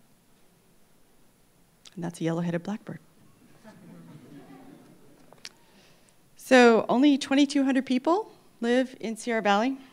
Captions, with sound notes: And that's a yellow headed blackbird. (laughter) So only 2,200 people live in Sierra Valley.